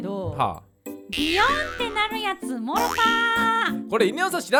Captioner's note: boyoing